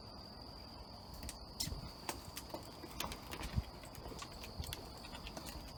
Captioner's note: footsteps tapping